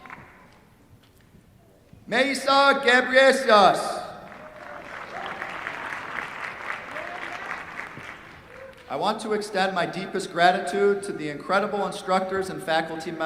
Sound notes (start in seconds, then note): 0.0 cheers, applause; 4.2 applause